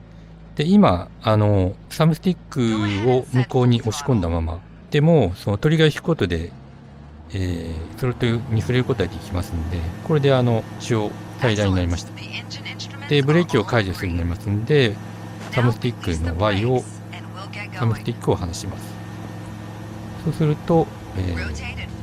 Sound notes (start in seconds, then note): 10.3 throttle